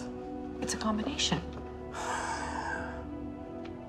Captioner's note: sighs